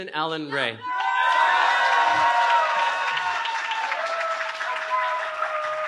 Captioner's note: cheering